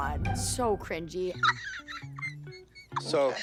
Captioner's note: Abby laughing